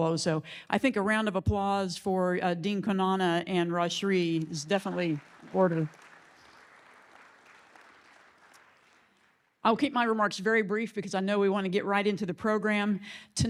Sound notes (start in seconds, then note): 6.1 audience clapping